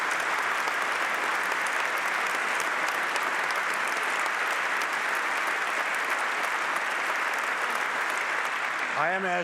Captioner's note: applause